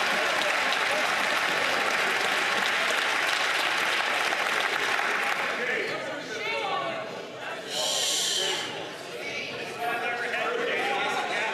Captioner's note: some Applause